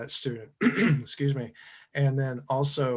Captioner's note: clears throat